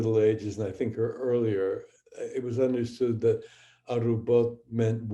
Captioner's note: speaking hebrew